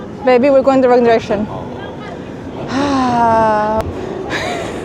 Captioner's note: laughter